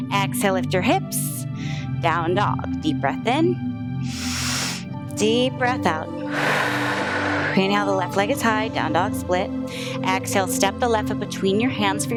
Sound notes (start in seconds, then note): 4.0 inhales; 6.7 exhales